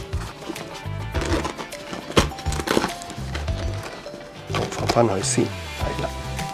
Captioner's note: sound of magic-tape